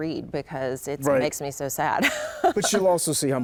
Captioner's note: laughs